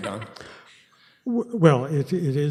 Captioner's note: laughs